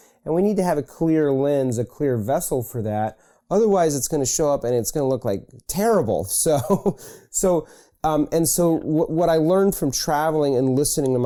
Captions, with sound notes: and we need to have a clear lens, a clear vessel, for that, otherwise it's gonna show up and it's gonna look, like, terrible, so. (laughs) And so what I learned from traveling and listening